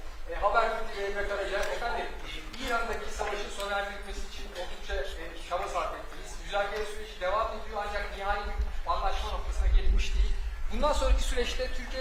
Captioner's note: speaking Turkish